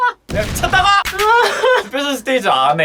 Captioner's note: dying of laughter